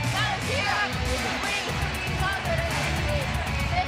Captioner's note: speaking in foreign language